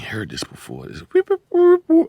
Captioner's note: beat boxing